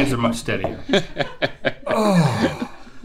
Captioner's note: laughter